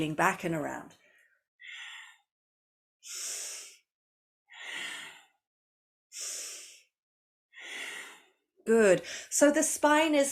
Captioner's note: breathes